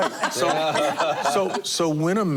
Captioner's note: laughter